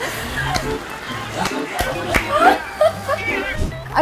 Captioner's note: laughing like crazy